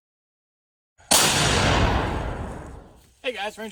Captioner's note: loud cannon fire